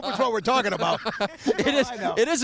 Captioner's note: laughing